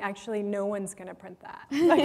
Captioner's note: laughter